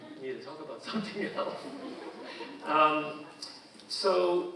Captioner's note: audience laughing; chuckling